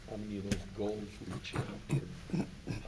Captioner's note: drowned out by throat clearing